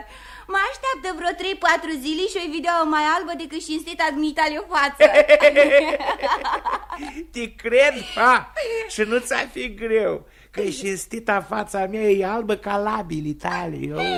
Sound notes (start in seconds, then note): 5.3 both laugh